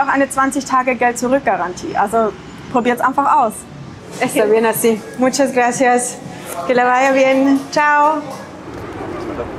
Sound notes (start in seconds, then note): 4.2 in Spanish